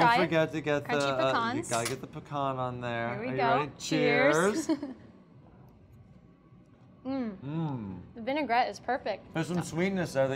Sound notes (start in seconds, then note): 5.6 giggles